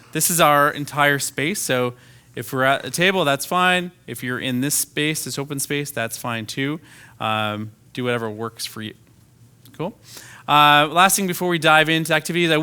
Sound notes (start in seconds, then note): none